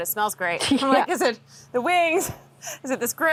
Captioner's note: chuckles